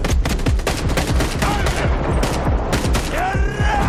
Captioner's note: man screams; in Ukrainian